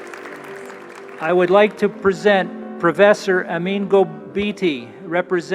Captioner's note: applause